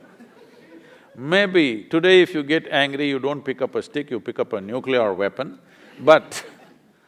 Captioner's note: laughter; laughter